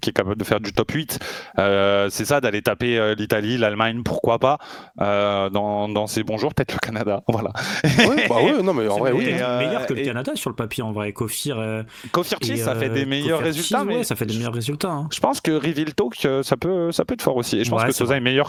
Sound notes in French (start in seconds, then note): 7.6 rires